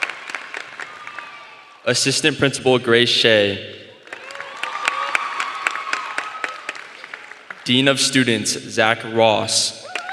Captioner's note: applause; applause